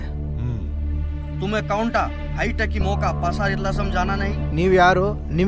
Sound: tribal Language

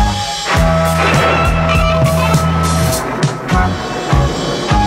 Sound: thunder rumbling

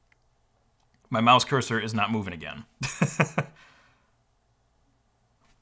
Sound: laughs

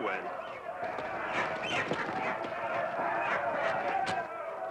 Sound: birds screeching

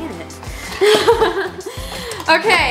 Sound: laughs

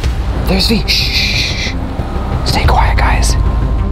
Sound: shushes

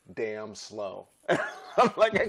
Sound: laughter

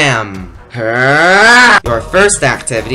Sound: growling loudly in rage

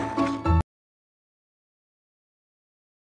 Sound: music stops

